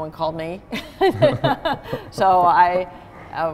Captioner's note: both laughing